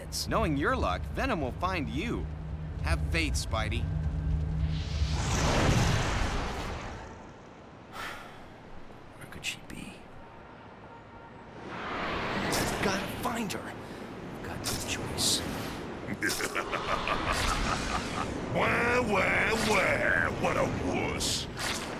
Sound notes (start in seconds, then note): 7.9 sighs; 16.0 Venom laughing